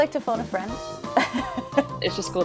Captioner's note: laughs